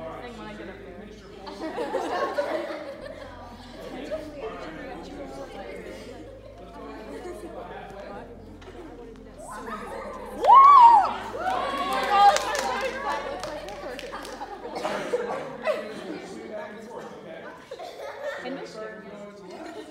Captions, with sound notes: Let's go ahead and get her up about halfway. [Cheering] Now swing back and forth, okay?